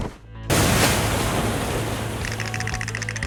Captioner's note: splash!